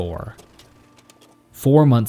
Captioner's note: projector clacking